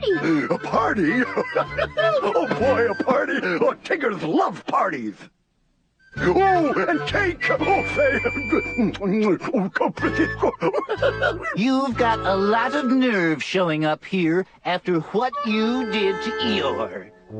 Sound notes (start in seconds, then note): 0.0 laughs; 0.2 gasps; 9.7 munching, then laughing